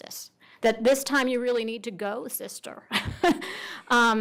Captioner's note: laughs